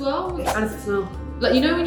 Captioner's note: air whooshes